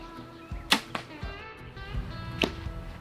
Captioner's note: bow pops; lighthearted bluegrass music